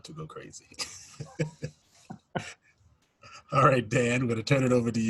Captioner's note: laughs